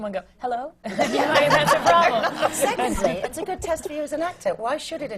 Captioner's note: laughter